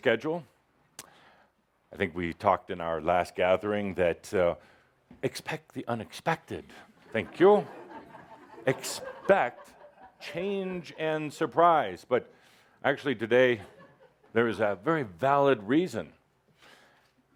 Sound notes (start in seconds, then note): 7.0 laughter